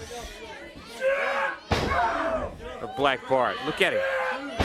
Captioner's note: crowd chatter